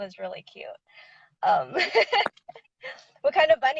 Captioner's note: laughing